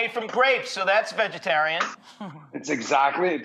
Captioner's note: Rachael laughs